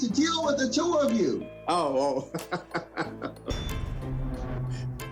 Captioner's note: laughs